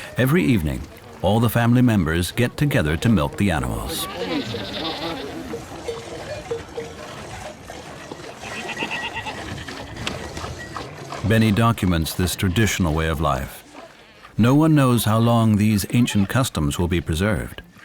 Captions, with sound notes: Every evening, all the family members get together to milk the animals. [goats bleating] Benny documents this traditional way of life. No one knows how long these ancient customs will be preserved.